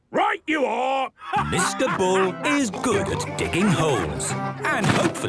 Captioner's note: laughing